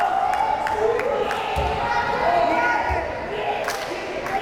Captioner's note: crowd cheering